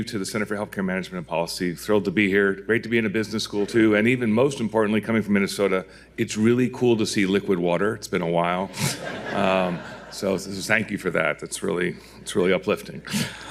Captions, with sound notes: to the Center for Healthcare Management and Policy. Thrilled to be here. Great to be in a business school too. And even most importantly, coming from Minnesota, it's really cool to see liquid water. It's been a while, [audience laughing] so thank you for that. That's really uplifting.